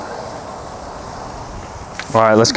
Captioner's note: steak sizzling